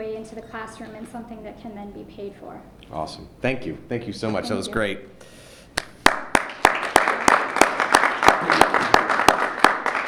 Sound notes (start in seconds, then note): 5.8 applause